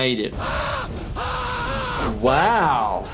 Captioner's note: screaming